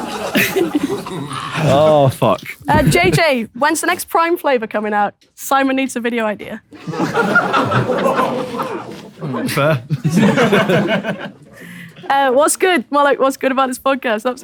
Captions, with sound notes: [people in room chuckling] Oh, f*ck. - JJ, when's the next prime flavour coming out? Simon needs a video idea. [people in room chuckling] - Fair. - What's good, more like, what's good about his podcast?